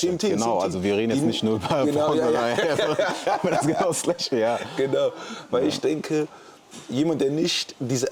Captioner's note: gelächter